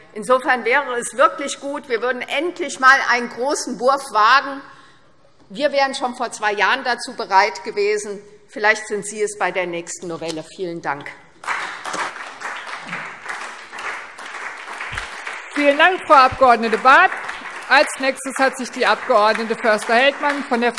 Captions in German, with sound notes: insofern wäre es wirklich gut, wenn wir endlich einen großen Wurf wagen würden. Wir wären schon vor zwei Jahren dazu bereit gewesen, vielleicht sind Sie es bei der nächsten Novelle. - Vielen Dank. [Beifall SPD] Vielen Dank, Frau Abg. Barth. - Als Nächste hat sich die Abg. Förster-Heldmann